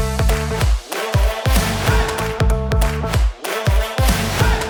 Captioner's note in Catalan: Aplaudiment